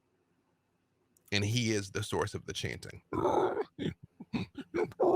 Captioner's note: croaks